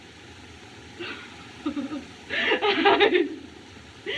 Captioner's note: crying